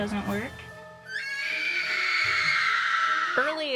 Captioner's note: woman screaming